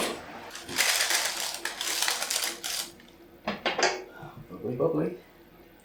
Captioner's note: paper crinklin